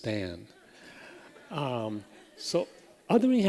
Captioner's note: laughter